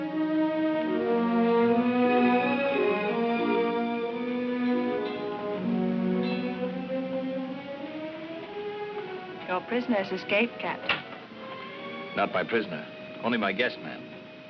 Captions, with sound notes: (bell clanging) (light orchestral music) Your prisoner's escaped, Captain. - Not my prisoner, only my guest, ma'am.